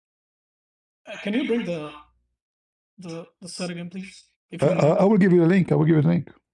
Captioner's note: Arabic